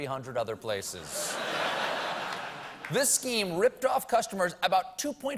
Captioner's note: laughter